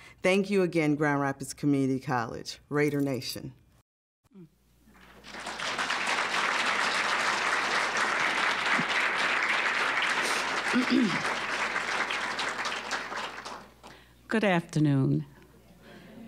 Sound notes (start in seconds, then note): 4.9 applause; 10.7 clearing throat; 12.1 applause